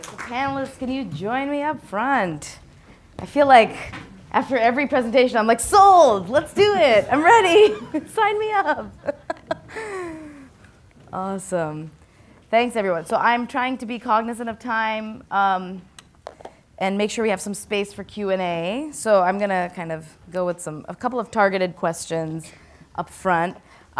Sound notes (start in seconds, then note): 8.9 laughs